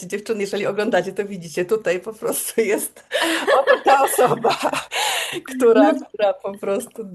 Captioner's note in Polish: śmiech